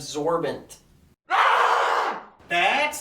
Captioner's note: loud yelling